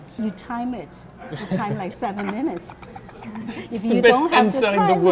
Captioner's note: laughs